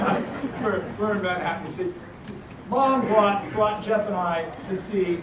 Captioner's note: laugh